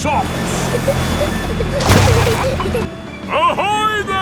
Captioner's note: peppa and george giggling